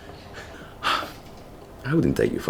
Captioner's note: sighs